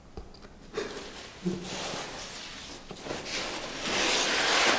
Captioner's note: sobbing